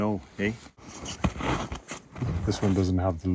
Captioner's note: snow crunches